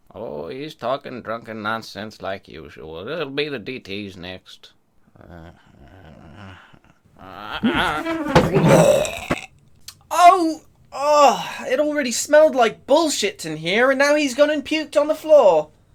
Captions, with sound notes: - Oh, he's talking drunken nonsense like usual. It'll be the DTs next. - Ah! [thud] [vomitting] - Oh ugh! It already smelled like bullshit in here, and now he's gone and puked on the floor!